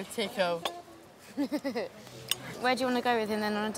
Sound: laughs

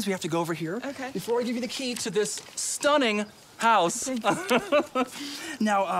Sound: laughs

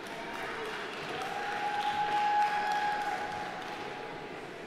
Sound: audience applauding

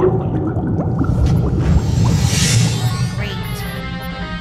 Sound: loud pop and sizzle

